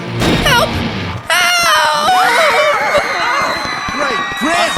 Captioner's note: screams